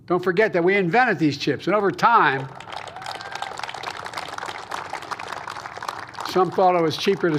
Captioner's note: applause